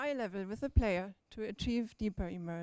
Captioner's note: none